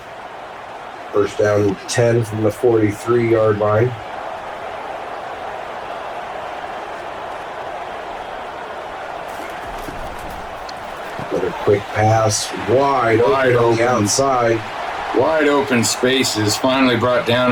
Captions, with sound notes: - First down 10 from the 43 yard line. (wind blowing) - Put a quick pass, wide open. - Wide open, wide open spaces finally brought down